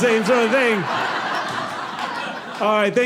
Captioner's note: audience laughing